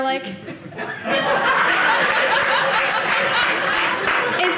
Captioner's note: audience laughing